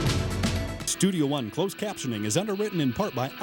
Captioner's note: voiceover